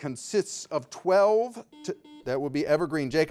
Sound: buzzer beeping

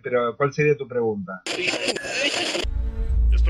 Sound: radio tuning noise

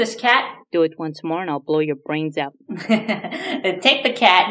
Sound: laughs

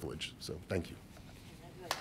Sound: applause

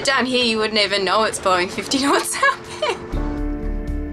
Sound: laughs; tense music

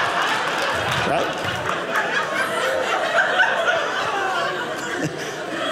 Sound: audience laughing

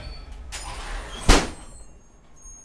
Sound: door slams shut; glass chimes tinkling

